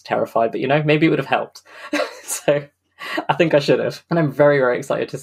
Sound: laughs

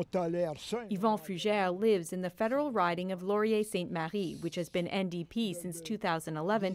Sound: speaking French

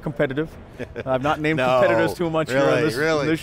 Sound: laughs

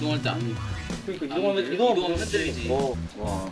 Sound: complaining

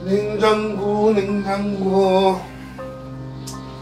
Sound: humming~

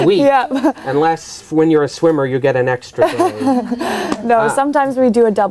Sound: laughs

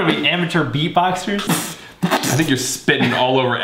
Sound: makes a beatbox sound

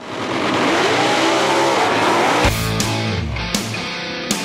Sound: car engines; rock music plays

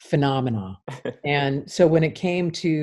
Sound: man chuckles

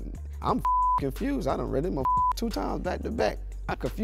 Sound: beep

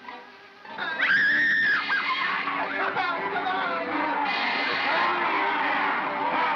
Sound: screaming

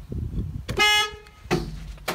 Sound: car honks

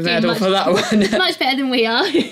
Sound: laugh

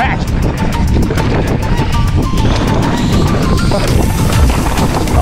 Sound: bike clatters

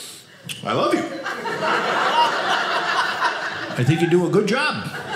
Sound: audience laughing

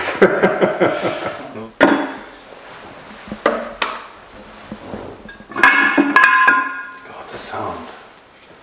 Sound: laughter

